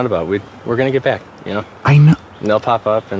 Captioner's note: agitated